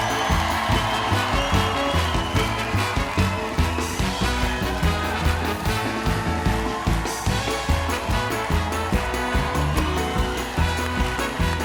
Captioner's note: cheers and applause